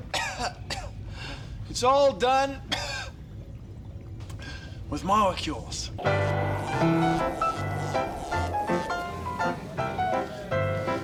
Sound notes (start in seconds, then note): 0.1 <i> coughing</i>; 3.4 <i> coughing</i>